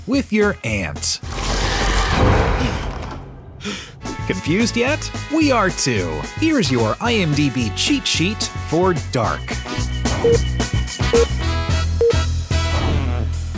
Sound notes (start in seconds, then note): 1.7 gasp